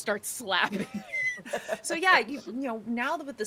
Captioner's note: people chuckling